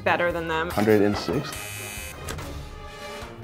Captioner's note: buzzer sounds